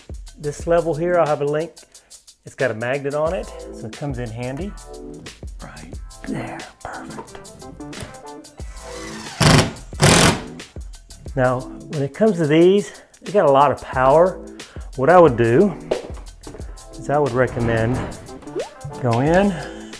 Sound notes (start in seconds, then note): 8.8 drill sound